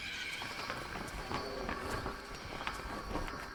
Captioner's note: tarp rustling